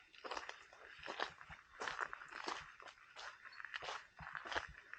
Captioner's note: footsteps on sand